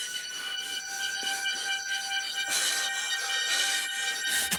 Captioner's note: breathing heavily